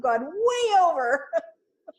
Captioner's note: laughs